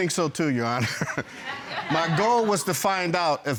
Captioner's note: chuckles